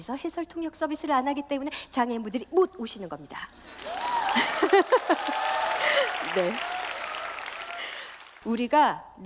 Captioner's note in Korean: 박수와 함성